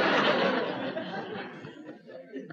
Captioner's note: laughter